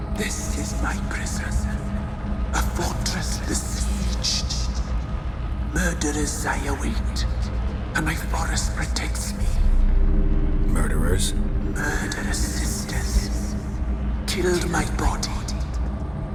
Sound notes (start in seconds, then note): none